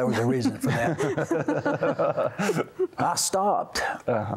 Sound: laughter

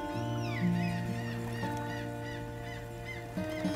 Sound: seagulls squawking

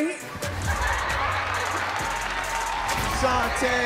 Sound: audience laughs

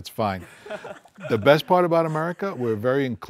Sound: participants laugh

